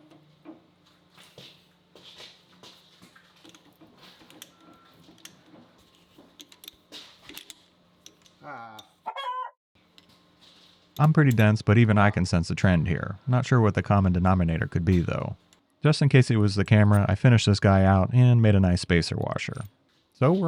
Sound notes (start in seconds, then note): 0.5 wrench clattering; 9.1 chicken clucking